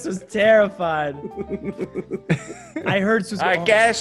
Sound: laugh

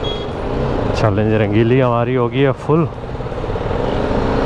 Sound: motorcycle

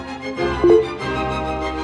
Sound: device chimes; symphony music

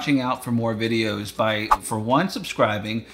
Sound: air swooshing

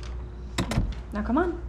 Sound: door closes

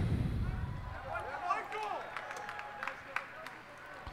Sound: cheers and applause

